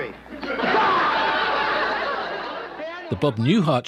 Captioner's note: laughing